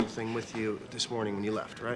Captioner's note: none